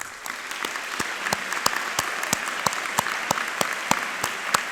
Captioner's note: audience applauding